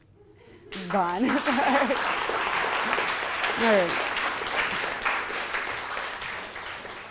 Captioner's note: audience applauds